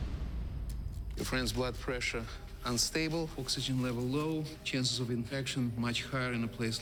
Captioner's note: none